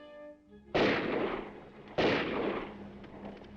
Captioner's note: gun firing; horse hooves clopping